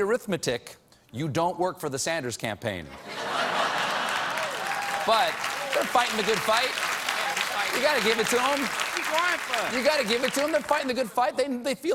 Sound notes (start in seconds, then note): 2.9 laughter; 3.7 applause